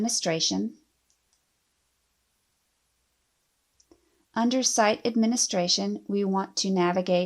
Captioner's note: clicking